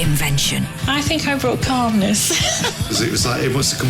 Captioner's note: laughs